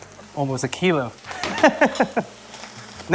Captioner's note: laughs